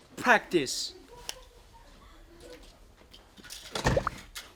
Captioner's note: silence